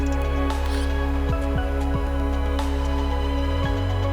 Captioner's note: graphics buzzing